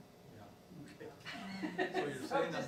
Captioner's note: woman laughing